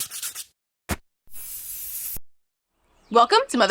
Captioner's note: scratching